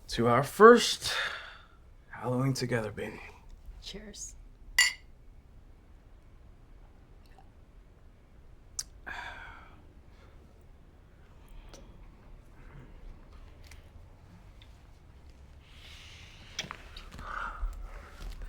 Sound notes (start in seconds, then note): 4.8 glasses clink; 9.1 sighing